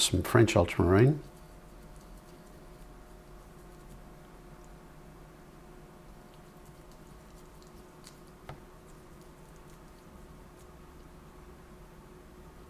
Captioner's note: silence